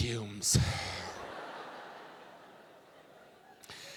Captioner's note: audience laughing